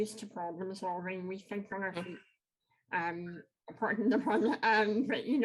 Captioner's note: laughs